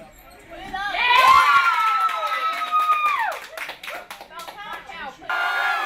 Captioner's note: people Cheering